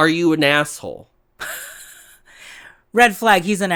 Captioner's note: laughs